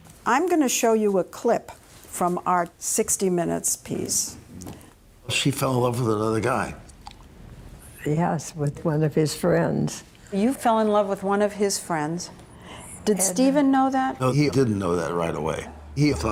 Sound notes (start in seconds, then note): none